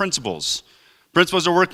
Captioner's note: none